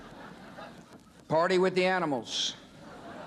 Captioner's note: audience laughing